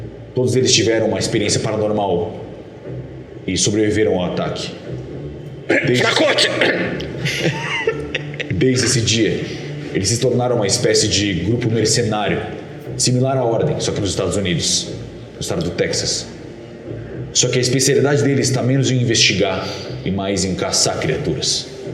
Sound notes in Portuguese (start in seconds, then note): 7.0 risadas